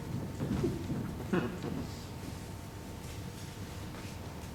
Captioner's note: audience member attempts to muffle gigglesnort, awkward silience